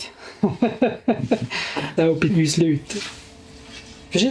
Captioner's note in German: Lachend